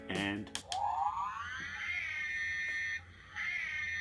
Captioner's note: Ecto-1a sounds